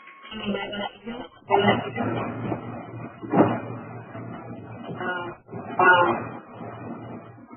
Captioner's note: audio feedback